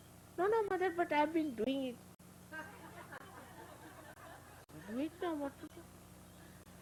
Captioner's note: laughter